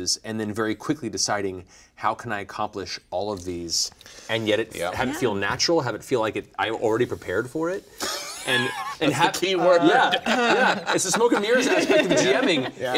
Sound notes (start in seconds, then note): 8.1 laughing